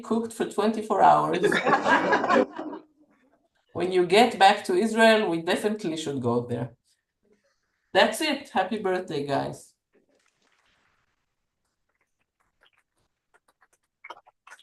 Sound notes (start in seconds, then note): 1.4 laughter; 10.0 applause